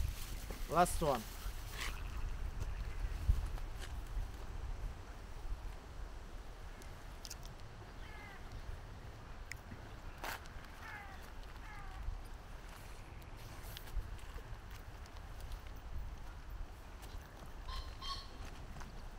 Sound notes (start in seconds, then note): 8.4 bird cawing